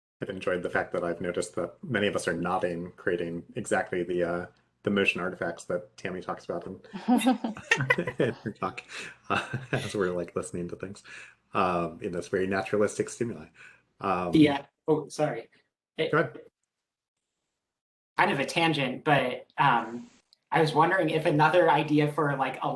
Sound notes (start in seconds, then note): 7.0 laughing